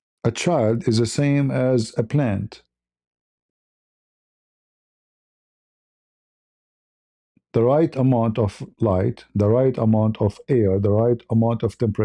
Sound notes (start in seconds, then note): none